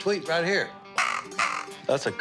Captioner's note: quack